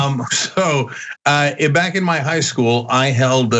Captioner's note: laugh